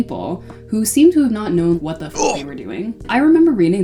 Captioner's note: grunt